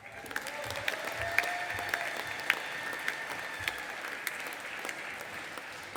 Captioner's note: audience applauding and cheering